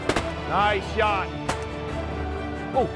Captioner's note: gun shots; gun shot